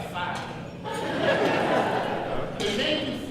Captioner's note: audience laughs